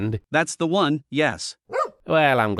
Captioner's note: woof